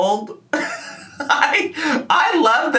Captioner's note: laughing